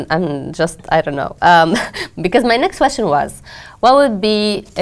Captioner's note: laugh